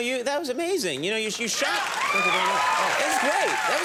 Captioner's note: audience shouts